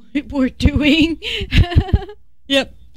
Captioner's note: laughter